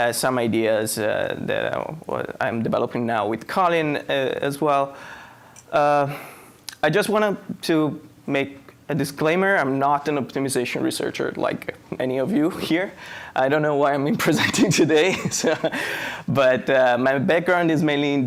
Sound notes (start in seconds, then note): 15.1 laughing